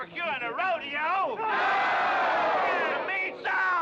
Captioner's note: crowd cheering